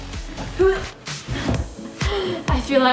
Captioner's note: grunts